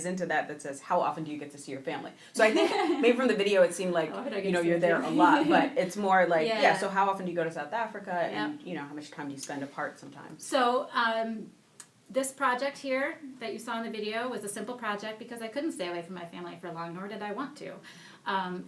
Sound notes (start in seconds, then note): 4.9 laughing